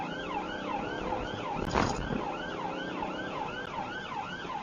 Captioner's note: car clunks over speedbump; engine accelerates